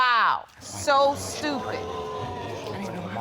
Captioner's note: audience exclaims